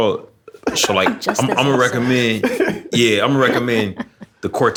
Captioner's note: laughter